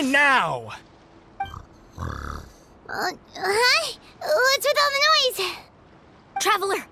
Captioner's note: snore